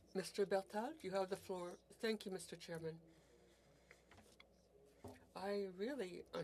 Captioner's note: speaking French